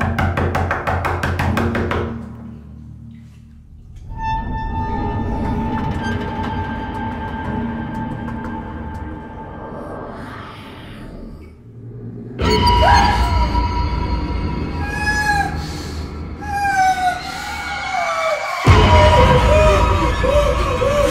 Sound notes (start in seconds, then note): 4.5 ominous creaking; 10.1 quiet growling; 15.0 muffled whimpering